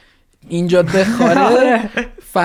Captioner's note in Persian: خنده